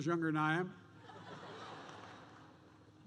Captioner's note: laughter